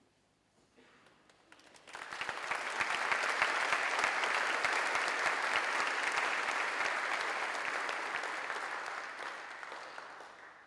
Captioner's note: applause